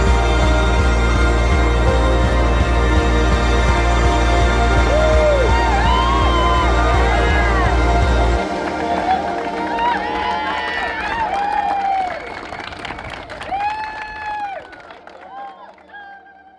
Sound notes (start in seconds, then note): 8.0 cheering and applause